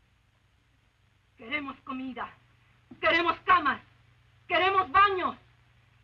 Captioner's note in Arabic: إسبيرانزا تتحدث الإسبانية